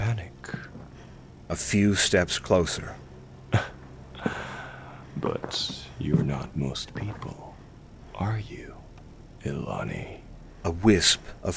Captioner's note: small laugh